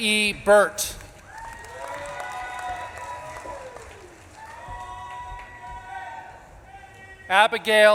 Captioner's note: audience claps and cheers; audience member shouts